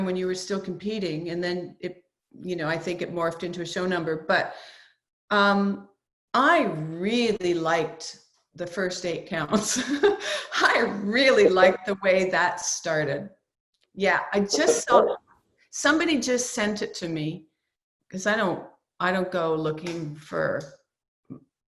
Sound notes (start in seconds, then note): 9.5 laughs